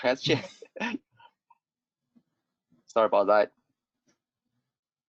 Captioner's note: chukling